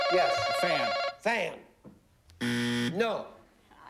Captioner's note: buzzer